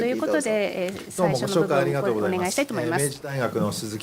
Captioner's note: japanese; speaking japanese